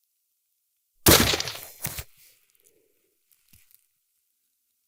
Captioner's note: gunshot